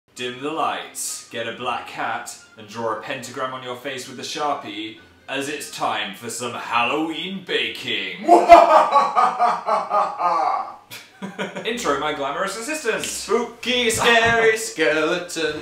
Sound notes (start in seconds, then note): 10.9 laughs; 13.0 snaps; 13.2 singing